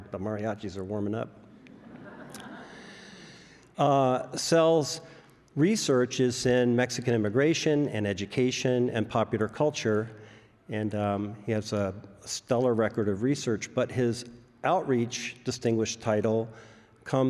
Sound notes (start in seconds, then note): 1.5 audience laughs